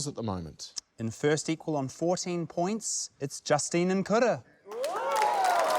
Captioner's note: cheering, applause